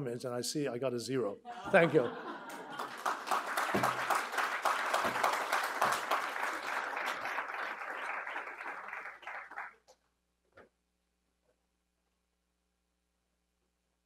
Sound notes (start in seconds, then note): 1.5 audience chuckling; 2.3 audience applauding